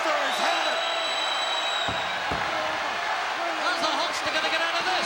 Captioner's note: crowd yelling